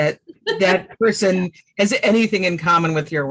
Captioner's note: laughs